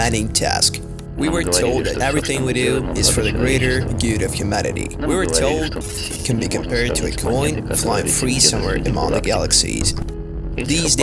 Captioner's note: static